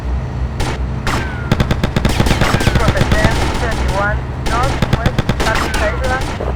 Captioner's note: gunfire